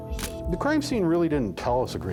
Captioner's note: shutter click